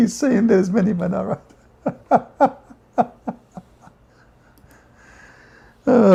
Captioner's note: Ketawa